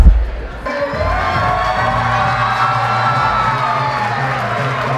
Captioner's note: audience applause and cheers